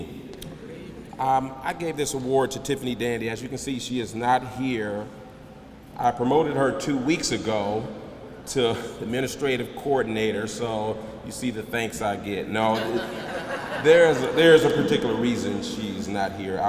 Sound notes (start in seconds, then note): 12.7 laughter